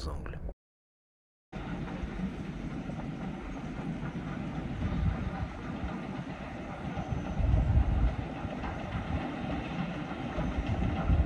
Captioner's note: original sounds of the train passing on the viaduct